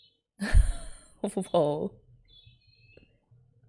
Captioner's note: laughs